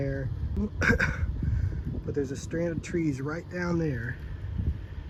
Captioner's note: coughs